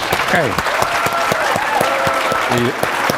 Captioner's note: applause